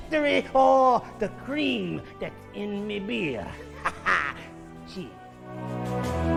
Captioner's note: laughing